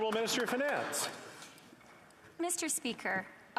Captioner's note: applause